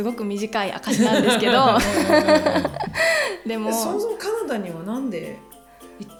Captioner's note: laughter